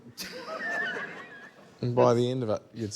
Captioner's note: laughter